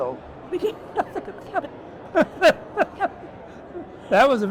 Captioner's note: both laugh